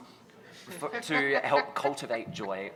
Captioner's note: laughs